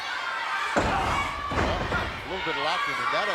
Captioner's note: body thuds